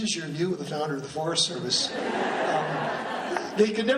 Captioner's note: laughing